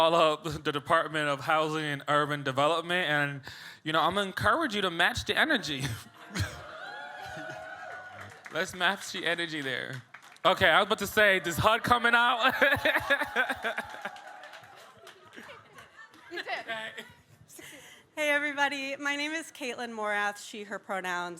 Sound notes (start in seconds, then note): 6.3 audience cheers; 11.1 laughs